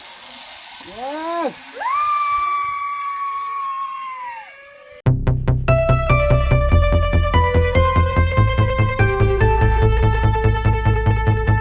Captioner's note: screams